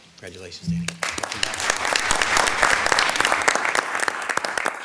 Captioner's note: audience applauding